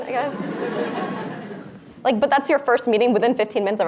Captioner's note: audience laughs